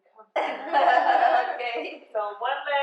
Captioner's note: laughing